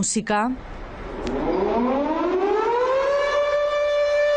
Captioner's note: alarm